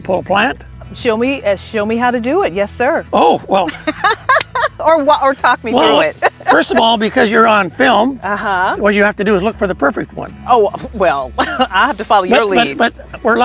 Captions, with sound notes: - So you want me to pull a plant? - Show me, show me how to do it. Yes, sir. - Oh, well. [laughing] - Or walk, or talk me through it. - Well, first of all, because you're on film, what you have to do is look for the perfect one. - Oh, well, I have to follow your lead.